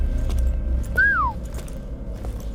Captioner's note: whistles